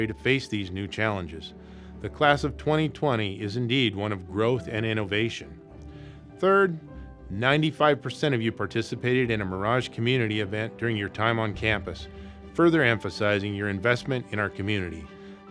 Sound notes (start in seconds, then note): none